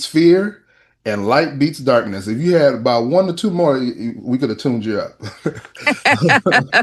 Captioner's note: laughter